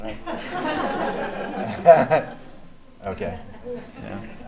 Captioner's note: laughing